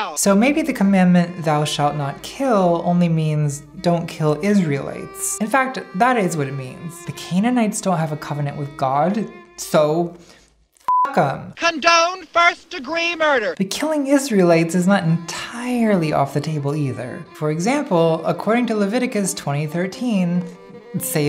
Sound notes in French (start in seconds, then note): 10.8 bip